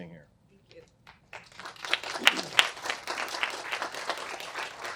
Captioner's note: applause